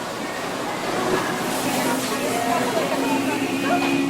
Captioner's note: cart rattling